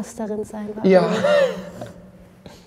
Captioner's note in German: lacht